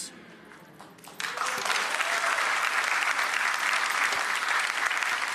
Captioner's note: audience applauding